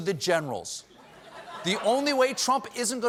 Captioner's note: laughter